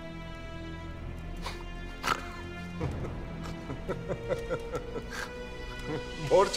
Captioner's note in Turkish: Vasilius gülme sesi